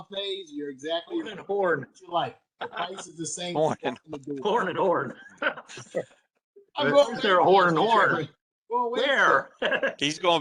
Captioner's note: laughter